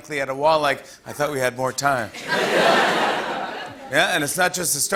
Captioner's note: laughter